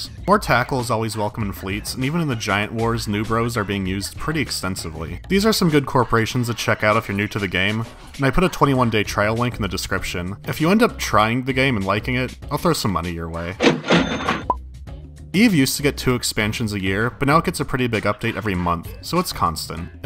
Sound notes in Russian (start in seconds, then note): 13.6 звук открывающейся кассы